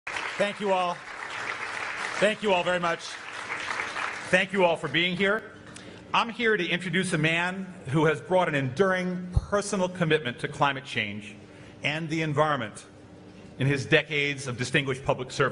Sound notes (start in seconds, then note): 0.0 audience applause